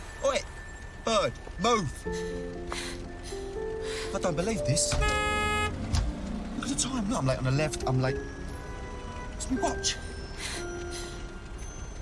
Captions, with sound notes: OI, BIRD, MOVE. - I DON'T BELIEVE THIS. - ( honks horn ) LOOK AT THE TIME. I'M LATE ON THE LEFT. I'M LATE-- WHERE'S MY WATCH?